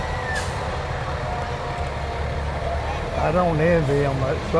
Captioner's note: person whistles